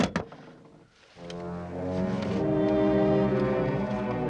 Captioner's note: line buzzing